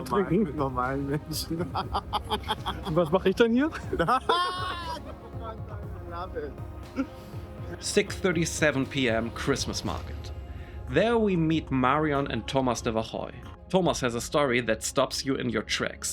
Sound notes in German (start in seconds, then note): 5.7 spricht in einer Fremdsprache